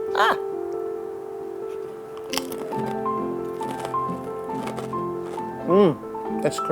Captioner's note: delicate piano music; crunches